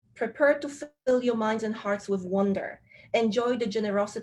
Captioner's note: speaking with Polish accent